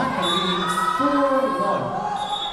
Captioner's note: whistle blowing